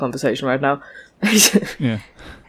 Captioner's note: chuckles